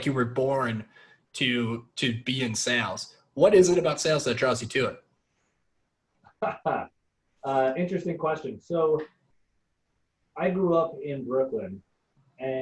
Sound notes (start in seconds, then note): 6.3 laughing